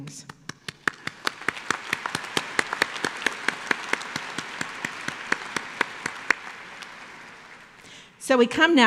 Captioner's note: applause